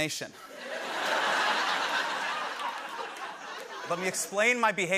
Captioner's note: laughter